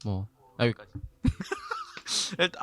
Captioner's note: laughter